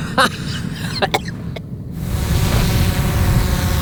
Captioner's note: coughing; drone whirring